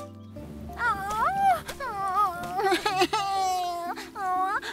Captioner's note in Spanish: Pearl llora; Pearl exhala con temor